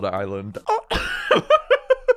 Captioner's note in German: kHh